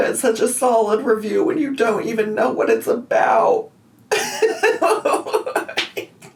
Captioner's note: laughing